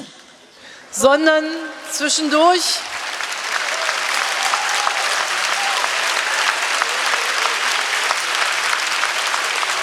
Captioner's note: applause